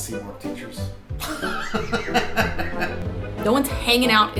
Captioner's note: laughs